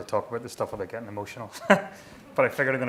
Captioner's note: laughing